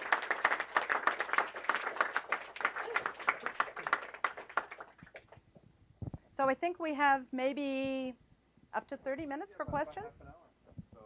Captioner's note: clapping